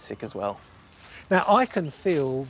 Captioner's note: squelching